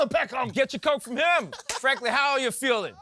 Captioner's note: laughs